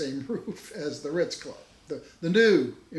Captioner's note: laughs